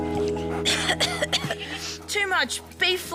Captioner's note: coughs